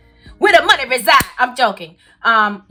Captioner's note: claps